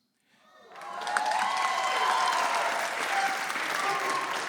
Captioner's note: audience applauds